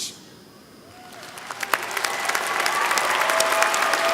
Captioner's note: applause